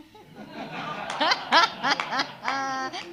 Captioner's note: all laugh